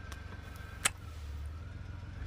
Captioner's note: kiss